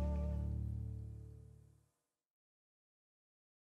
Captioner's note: none